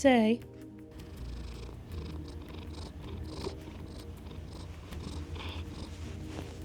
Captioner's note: sniffs and purrs